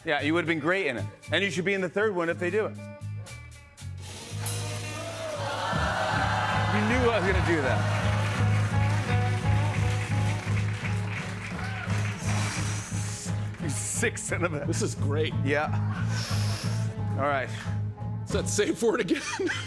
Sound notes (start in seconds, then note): 16.0 inhales sharply; 19.0 laughter